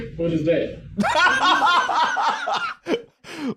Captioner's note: laughs